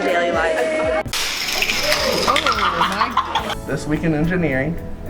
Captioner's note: toy car wheel sound